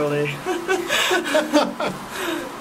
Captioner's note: fake laughs